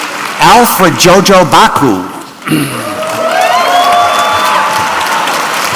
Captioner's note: applause